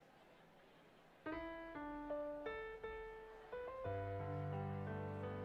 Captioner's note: audience chattering; gentle piano music